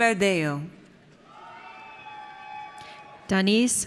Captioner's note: audience cheers